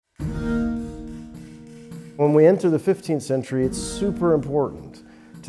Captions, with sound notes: (hammer thudding) (pensive music) - When we enter the 15th century, it's super important